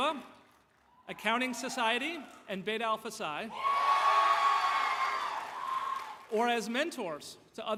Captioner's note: applause